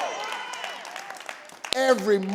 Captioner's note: audience cheering